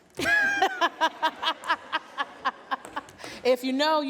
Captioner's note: laughter